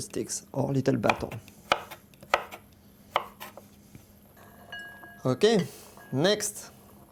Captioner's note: cutting sounds